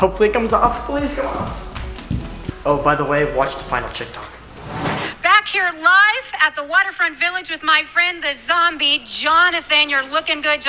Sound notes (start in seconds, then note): 4.4 swooshing